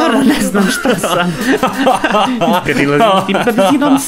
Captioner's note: they laugh